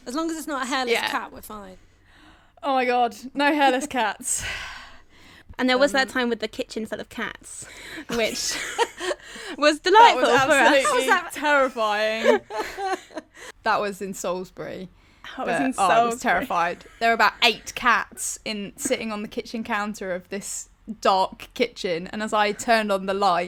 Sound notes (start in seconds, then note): 8.5 all laugh